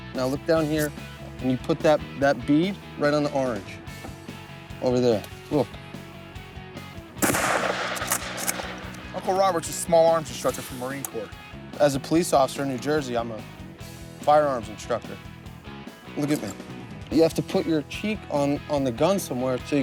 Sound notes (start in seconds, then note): 7.2 gun fires